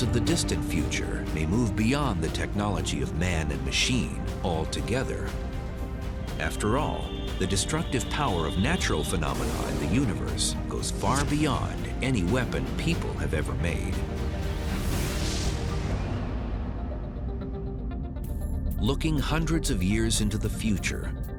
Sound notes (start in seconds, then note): 13.2 blast sound